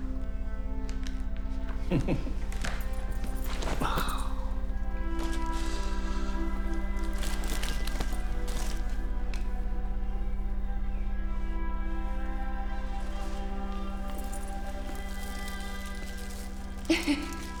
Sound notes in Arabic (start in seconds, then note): 1.8 ضحكة مكتومة أوسكار; 3.8 أوسكار يتنهد; 16.8 آنا ضحكة مكتومة